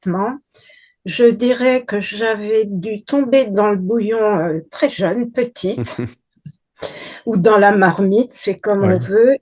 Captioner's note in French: rires